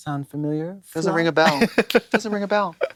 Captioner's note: Katya titters